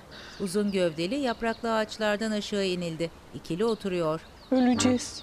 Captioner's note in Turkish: Kuş cıvıltısı sesi